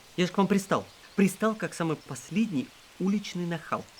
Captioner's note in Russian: none